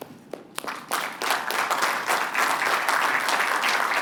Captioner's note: applause